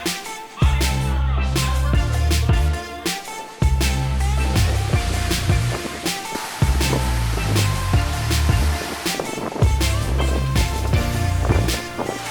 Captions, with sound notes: - Now, my name is (music drowns out speaker) (wind blowing)